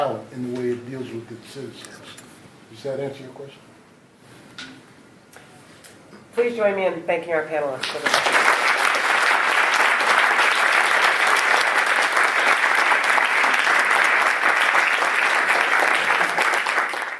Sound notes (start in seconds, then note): 7.8 applause